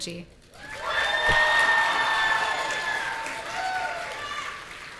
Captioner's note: audience cheering